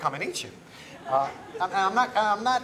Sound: laughter

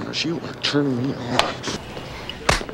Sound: slap sound; slap/grab sound

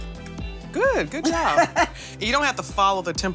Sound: laughs

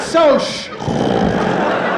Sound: snoring

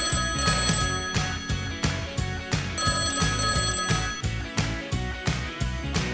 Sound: phone rings

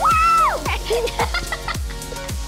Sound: laughter

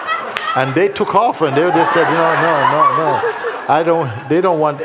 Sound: laughter; laughter

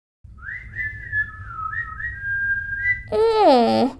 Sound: whistling

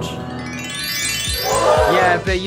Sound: magical twinkling

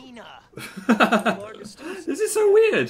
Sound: laughs

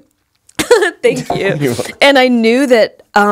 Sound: laugh

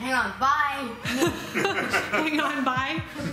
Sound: laughing

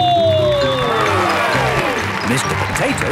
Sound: cheering

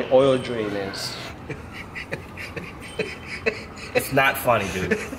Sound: laughs

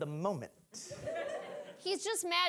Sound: audience laughing

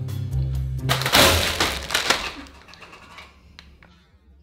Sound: snake popping

